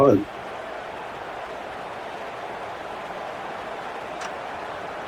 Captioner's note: crowd cheering